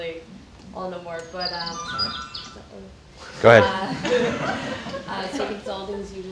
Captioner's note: phone makes sound